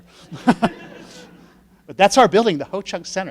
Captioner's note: laughing